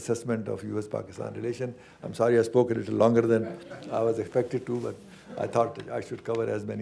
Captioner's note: laughter